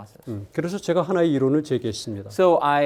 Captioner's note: speaking in Korean